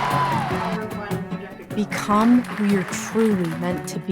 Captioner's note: crowd cheering